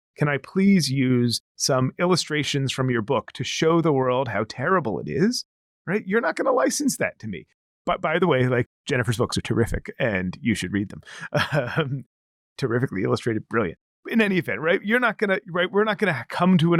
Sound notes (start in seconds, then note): 11.1 laughs